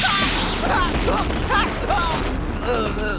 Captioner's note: grunting